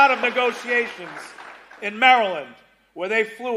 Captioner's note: cheers and applause